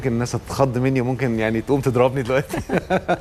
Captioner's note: laughs!